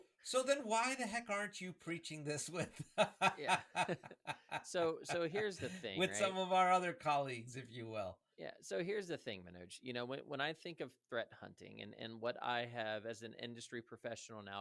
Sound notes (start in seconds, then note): 2.5 laughs